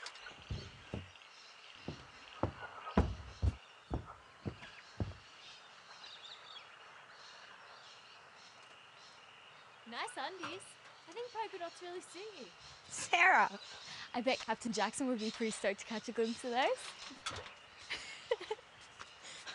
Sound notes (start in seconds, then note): 18.1 laughs